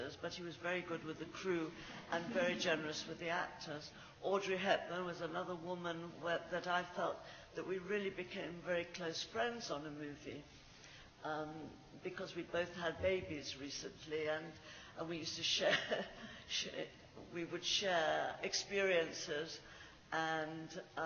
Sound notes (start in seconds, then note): 16.2 laughs